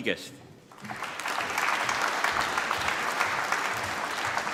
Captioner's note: applause